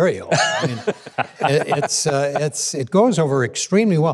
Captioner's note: laughing